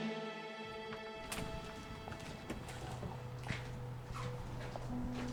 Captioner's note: door opening, footsteps falling